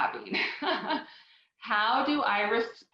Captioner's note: laughs